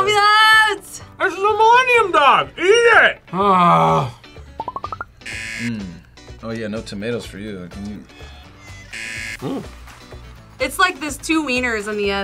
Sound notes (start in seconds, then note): 5.2 buzzer; 8.8 buzzer